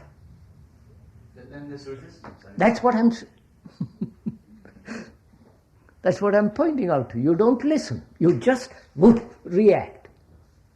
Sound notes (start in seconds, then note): 3.7 laughs